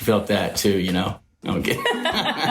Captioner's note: everyone Laughs